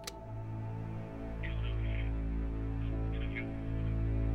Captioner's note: recording of male voice playing faintly